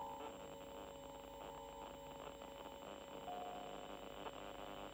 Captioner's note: static buzzing